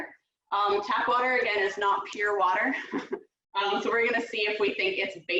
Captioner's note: laughs